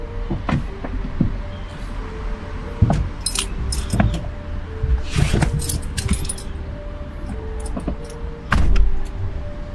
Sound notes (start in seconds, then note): 3.4 keys jingling